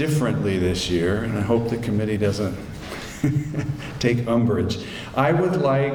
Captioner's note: chuckles